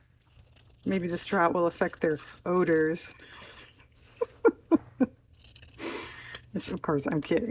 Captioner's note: laughs